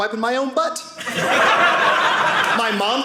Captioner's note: audience laughing